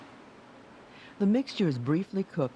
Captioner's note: voiceover